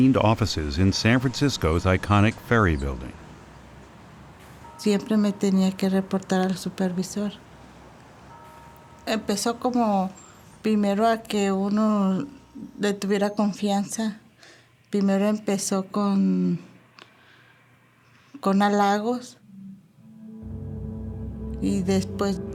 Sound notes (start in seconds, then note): 5.0 speaking Spanish